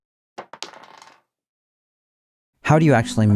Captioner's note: dice clattering